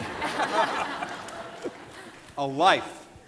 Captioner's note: audience laughing